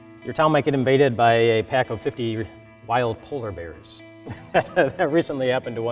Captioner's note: laughs